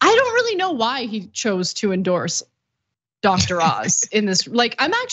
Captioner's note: laugh